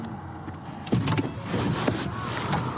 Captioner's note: car door opens